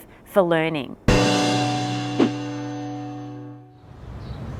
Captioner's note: loud gong